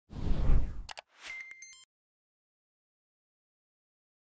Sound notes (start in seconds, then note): 0.1 air whooshing